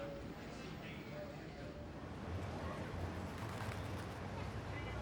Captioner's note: people chattering